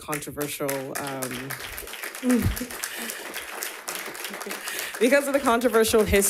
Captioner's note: audience applauds